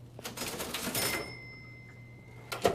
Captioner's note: cash register